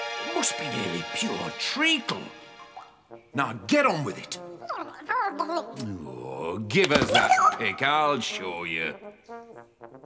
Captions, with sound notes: Must be nearly pure treacle! Now, get on with it! [Boggart gibbering] Oh, give us that pick. I'll show you!